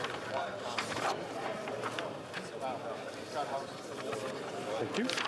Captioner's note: chatter